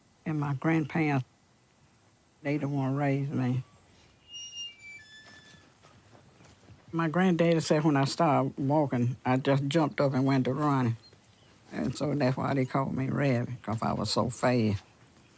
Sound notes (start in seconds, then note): none